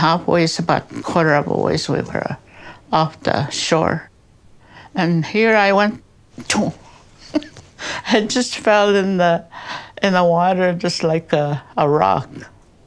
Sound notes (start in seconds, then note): 6.6 mock sound